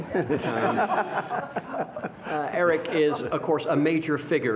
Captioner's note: laughter